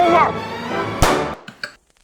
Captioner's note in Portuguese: pow; Click